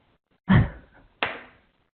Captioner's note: chuckling